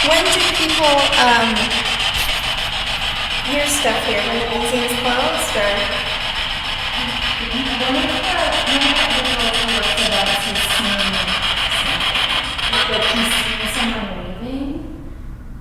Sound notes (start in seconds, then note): 7.3 static buzzing; 8.4 lady speaking faintly